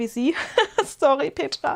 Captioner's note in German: gelächter